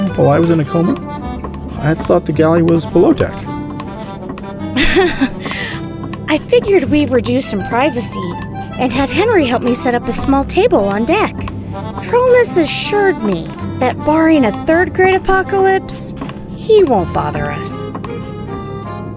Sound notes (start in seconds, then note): 3.8 walking; 4.7 giggles